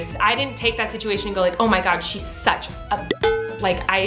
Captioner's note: beep